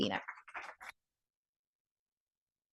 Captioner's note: applause